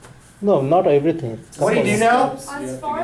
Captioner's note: voiceover